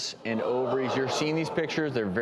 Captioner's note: audience gasps